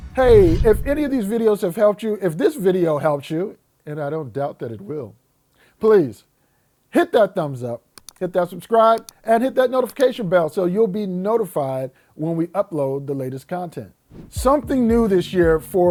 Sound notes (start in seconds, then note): 7.9 mouse click